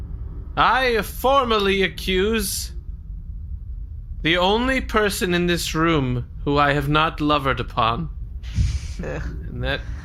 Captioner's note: dramatically